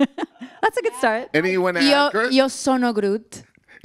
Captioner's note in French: en italien